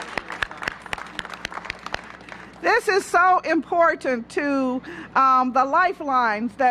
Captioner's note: applause